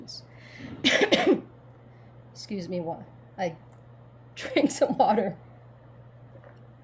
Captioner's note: coughs